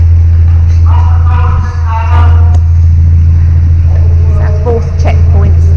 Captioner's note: talking on radio